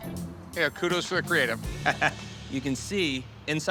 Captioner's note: laughs